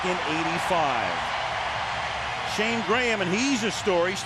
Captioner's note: crowd cheering